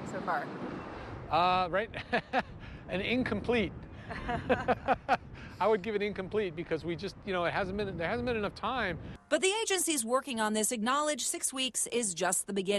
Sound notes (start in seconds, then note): 4.0 laughter